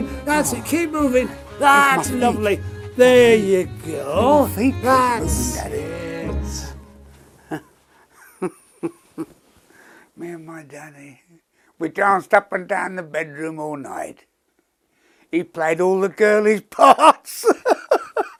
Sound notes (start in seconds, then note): 7.4 laughing